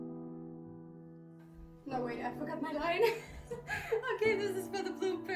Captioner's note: laugh